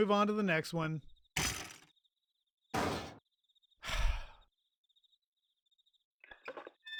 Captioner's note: sigh